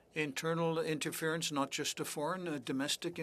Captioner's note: speaking French